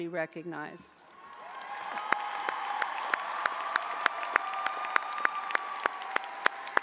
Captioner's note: audience applauding; audience cheering